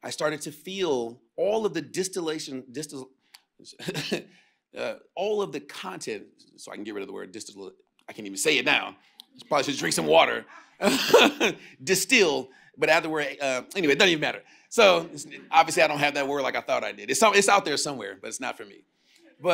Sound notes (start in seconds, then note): 3.8 chuckles; 10.8 chuckles